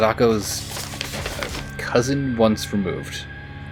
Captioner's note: paper shuffling